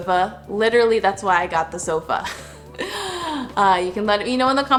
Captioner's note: laughs